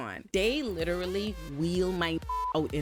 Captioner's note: beep